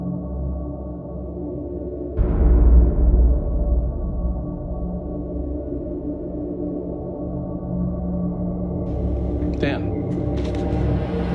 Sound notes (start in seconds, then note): 2.1 gun shot